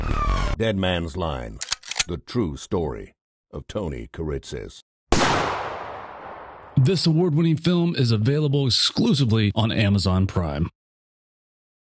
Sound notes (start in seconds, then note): 1.6 gun cocks; 5.1 gunshot